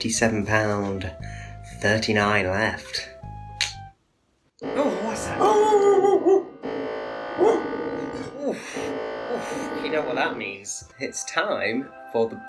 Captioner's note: alarm goes off